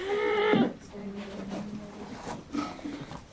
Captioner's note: grunts in frustration